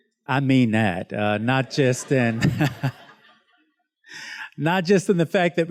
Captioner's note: students laughs